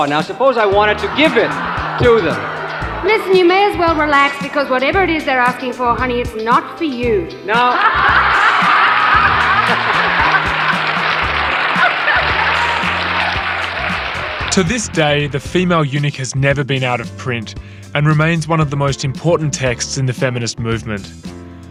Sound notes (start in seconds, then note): 7.6 audience laughing